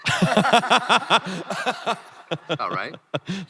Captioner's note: crowd laughing